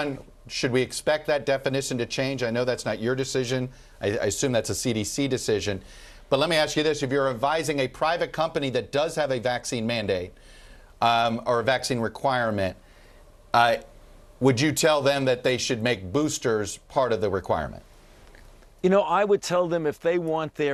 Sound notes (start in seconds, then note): none